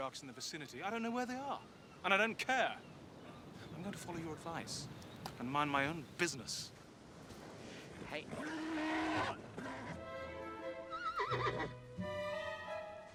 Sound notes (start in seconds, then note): 8.3 horse moans; 10.9 neigh